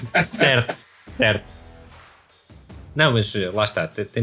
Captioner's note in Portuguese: risos